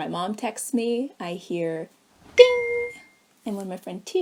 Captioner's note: ding!